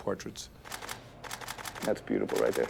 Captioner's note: camera clicking